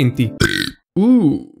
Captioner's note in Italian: ruttino ops